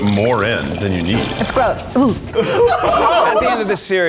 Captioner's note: gags; laughing